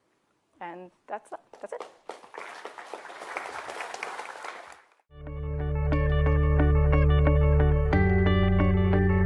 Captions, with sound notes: And that's it. (applause) (inspirational music)